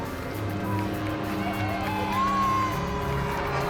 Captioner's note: cheering